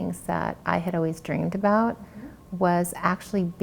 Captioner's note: none